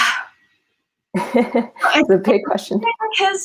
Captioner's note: laughs